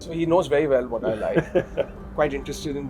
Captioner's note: laughter